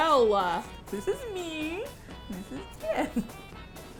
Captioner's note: sweetly